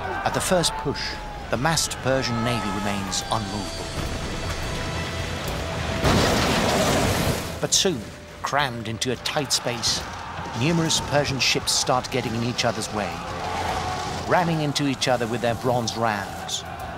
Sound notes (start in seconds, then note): 6.2 ships ram